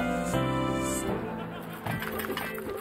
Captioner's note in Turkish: Gülme efekti